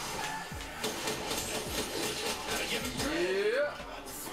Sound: gun firing

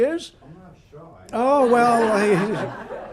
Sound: laughter

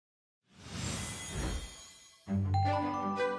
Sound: swooshing; jaunty music

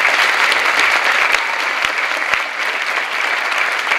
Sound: clapping

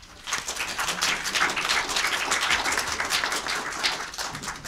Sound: audience clapping

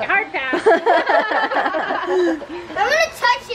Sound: laughing

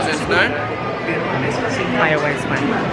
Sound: people chattering

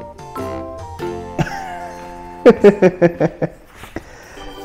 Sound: laughs

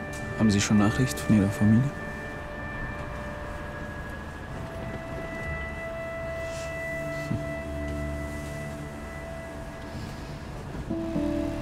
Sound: engines hum

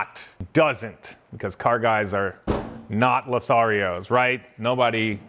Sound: desk bangs

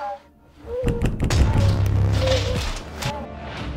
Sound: sound of doors banging hard

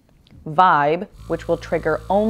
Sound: vibrating sound

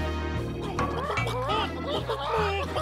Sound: clucking

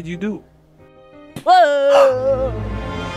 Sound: screams; gasps

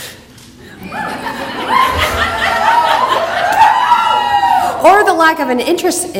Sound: audience laughter, yelling, clapping

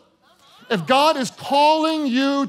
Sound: congregation gasping

